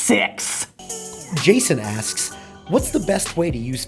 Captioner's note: voiceover